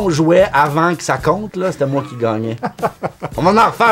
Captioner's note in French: rires